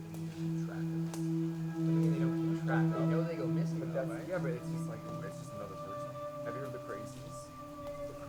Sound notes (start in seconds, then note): 2.6 chatter